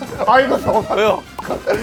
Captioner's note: tennis balls caught